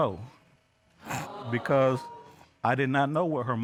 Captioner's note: audience exclaims